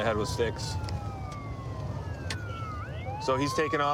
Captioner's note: sirens wailing